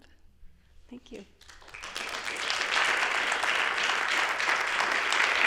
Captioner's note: applause